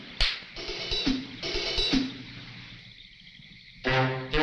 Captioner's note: tense music; Jonelle slaps